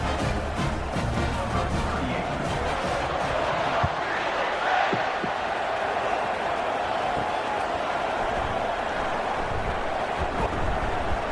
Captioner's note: crowd Noises